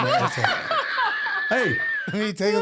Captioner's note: laughing